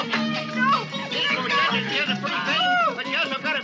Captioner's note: women screaming